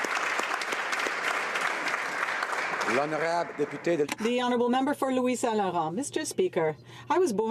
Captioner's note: applause